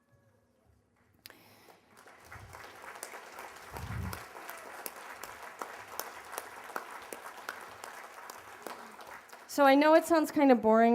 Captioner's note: applause